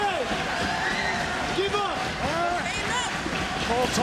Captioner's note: audience cheering